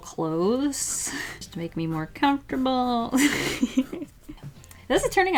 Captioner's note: laughs